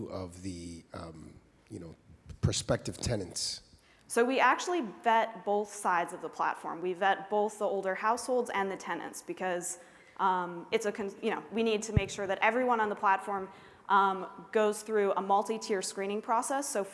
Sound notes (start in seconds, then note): none